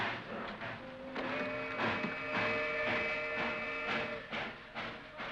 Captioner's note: train chugs away; train whistle blows; train chugs away